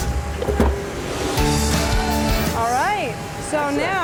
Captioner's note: clunking